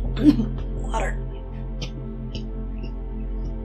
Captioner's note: coughing